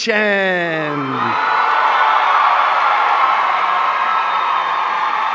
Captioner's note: audience cheering